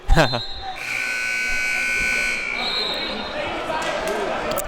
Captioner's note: timer buzzes